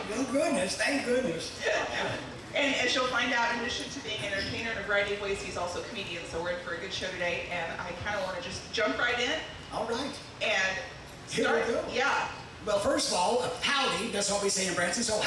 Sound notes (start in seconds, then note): 2.8 laughing